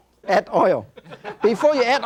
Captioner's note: laughing; audience laughing